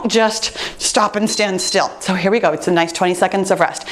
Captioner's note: timer beeps